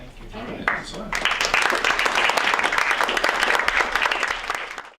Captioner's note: audience Clapping